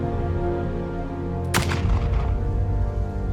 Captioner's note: gunshot